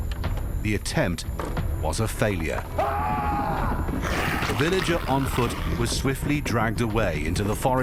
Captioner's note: screaming and groaning